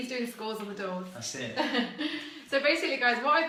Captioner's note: laughs